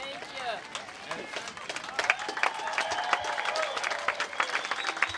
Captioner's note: audience applauding